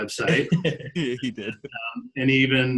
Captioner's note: laughing